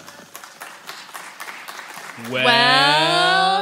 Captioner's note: applause